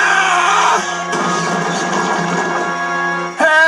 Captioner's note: screams; Cranky Lands Onto The Ground With A Loud Kuh-Thud